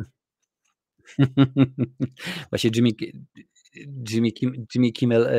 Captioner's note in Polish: śmiech